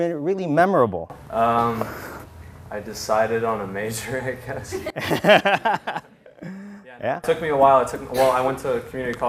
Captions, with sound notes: OR IN YOUR SCHOOLING THAT'S KIND OF JUST BEEN REALLY MEMORABLE? >> I DECIDED ON A MAJOR, I GUESS. >> [LAUGHTER] YEAH. >> YEAH. IT TOOK ME A WHILE.